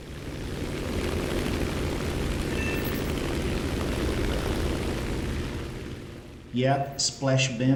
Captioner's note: aircraft Engines ,Gunfire, Flying Sounds